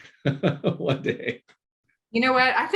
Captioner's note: laughing